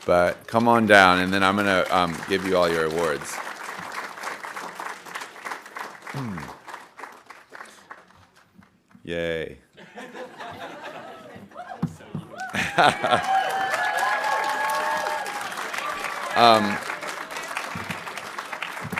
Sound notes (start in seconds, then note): 3.7 audience applauding; 9.8 audience laughing; 13.8 audience cheering and applauding